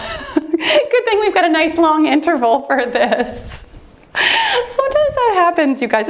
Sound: laughs

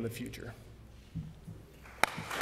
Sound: applause

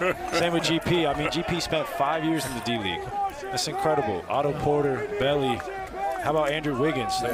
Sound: laughter

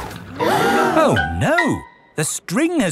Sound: all gasp

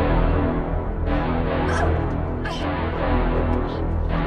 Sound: yelps

